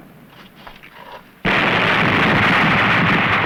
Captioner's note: blast